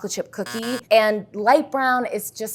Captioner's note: buzzer sounds